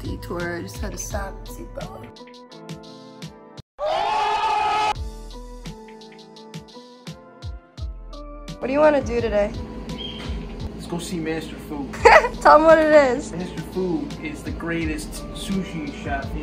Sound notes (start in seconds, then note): 3.8 crowd cheering; 5.2 gentle music